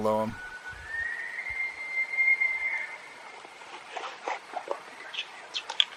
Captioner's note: bull Elk Bugle